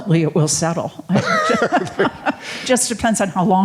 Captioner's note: laughing